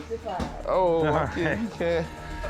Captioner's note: chuckles